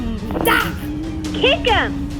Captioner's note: growls